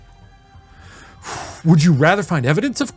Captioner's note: sighing